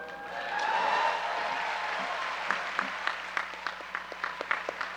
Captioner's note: audience applause